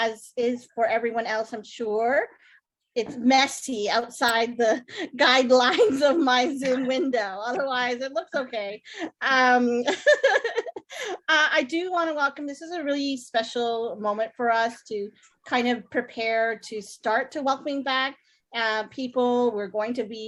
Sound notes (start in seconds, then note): 9.0 laughs